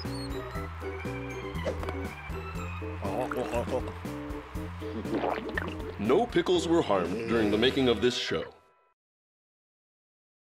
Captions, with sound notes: (gulping) NO PICKLES WERE HARMED DURING THE MAKING OF THIS SHOW.